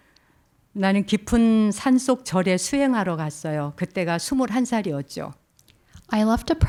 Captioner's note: speaking in Korean